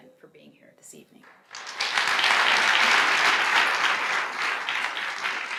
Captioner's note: audience applauds